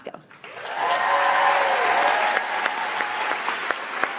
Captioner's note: audience applauds